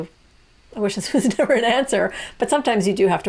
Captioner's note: chuckles